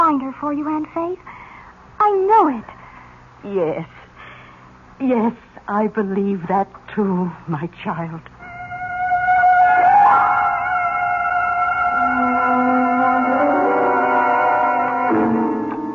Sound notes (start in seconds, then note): 8.5 siren